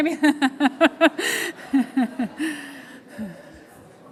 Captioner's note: laughs